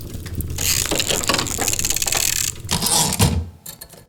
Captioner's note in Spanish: Ruidos mecánicos y retorno de carro de una máquina de escribir